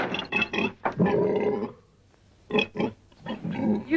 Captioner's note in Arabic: شخير الخنزير